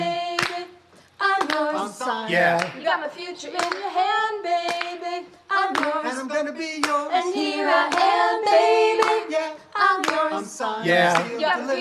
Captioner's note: clapping and Vocalizing